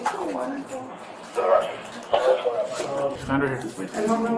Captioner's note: radio chatter